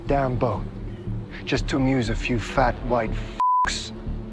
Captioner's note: beep